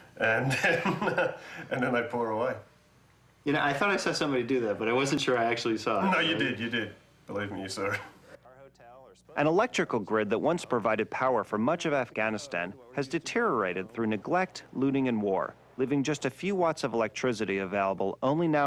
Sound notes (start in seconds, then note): 0.4 chuckling; 8.5 chuckling